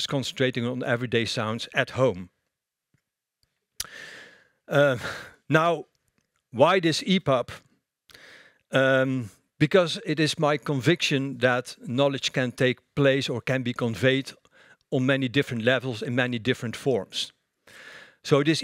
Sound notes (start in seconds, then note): none